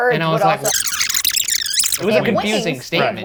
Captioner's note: tape fast forwarding